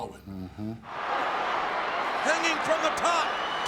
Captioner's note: crowd cheering